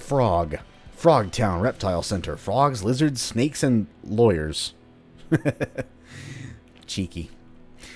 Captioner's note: chuckles